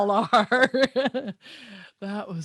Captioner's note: she laughs